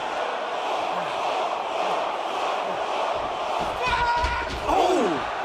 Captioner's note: fans chanting